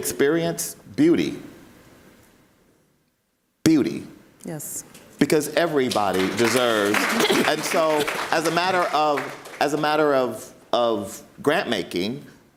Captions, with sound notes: experience beauty, beauty, (audience applauds) because everybody deserves, and so as a matter of grant making,